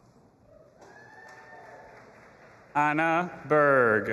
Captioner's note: audience applauding and cheering